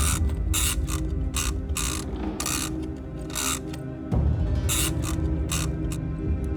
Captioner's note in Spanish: Sonido al abrir la caja